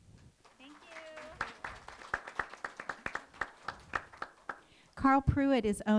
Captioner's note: applause